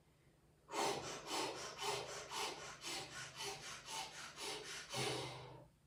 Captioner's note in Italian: sbuffare